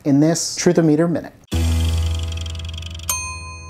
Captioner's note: dramatic music; Truth-O-Meter ticking; Truth-O-Meter dings